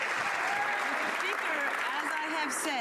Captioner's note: some Applause